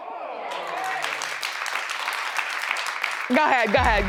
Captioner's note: audience applauds